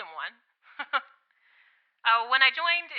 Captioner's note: A chuckle